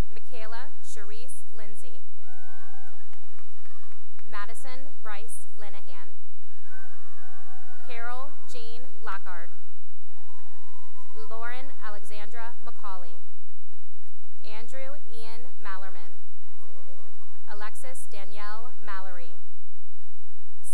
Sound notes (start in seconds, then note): 2.2 cheering and applause; 6.7 cheering; 10.1 cheering; 13.5 applause; 16.4 cheering; 19.7 cheering